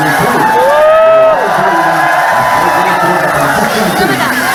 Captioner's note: clap